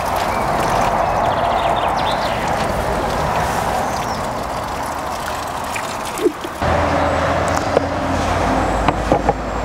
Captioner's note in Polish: świergot ptaków i odgłos przejeżdżających samochodów